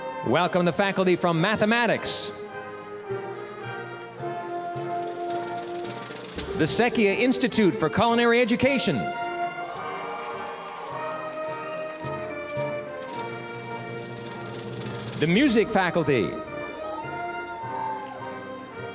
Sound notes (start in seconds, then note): 0.0 orchestral music; 9.7 applause, cheering; 13.2 orchestral music; 18.7 orchestral music